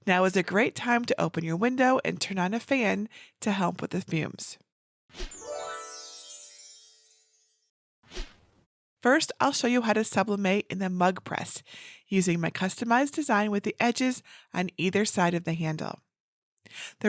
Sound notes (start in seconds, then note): 5.3 fairy dust sound effect